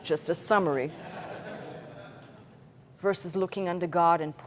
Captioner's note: laughter